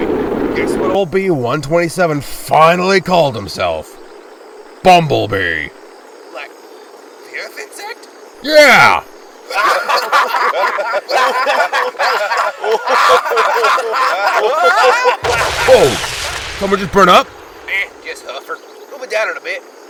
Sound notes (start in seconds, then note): 9.4 Autobots laugh at Bee; 15.2 crash